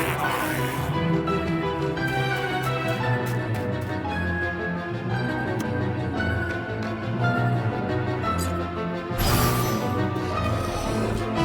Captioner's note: snarling